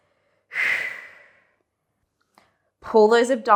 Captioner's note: breathing sharply